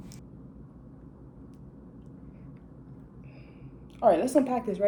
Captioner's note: BAFFLED silence